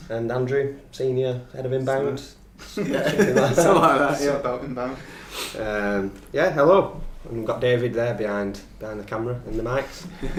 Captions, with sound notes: - And Andrew, senior, head of Inbound. (all laughing, mumbling) - Yeah, hello, and we got David there behind the camera and the mics.